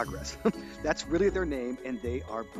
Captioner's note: scoffing